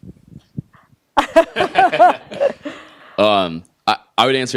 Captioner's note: laughing